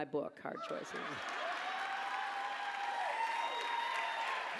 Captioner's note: laughter, applause